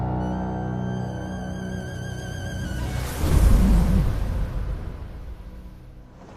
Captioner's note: sandstorm